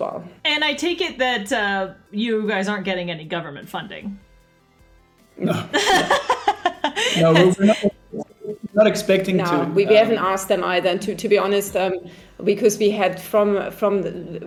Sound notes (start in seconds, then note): 5.4 laughs